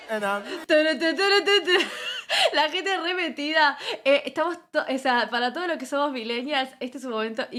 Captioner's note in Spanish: risas